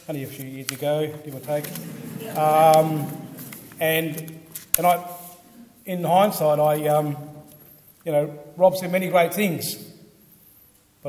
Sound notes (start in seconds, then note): 1.4 audience laughs